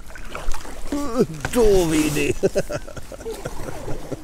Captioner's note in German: lacht